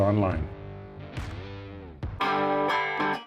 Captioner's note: gunfire booms; gentle upbeat music